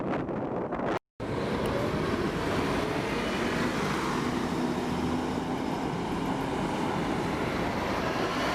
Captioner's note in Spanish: sonido ambiente y de bus andando